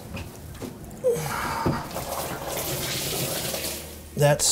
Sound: water pouring out

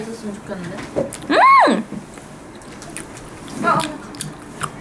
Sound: she uttered an exclamation

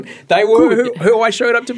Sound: laughing

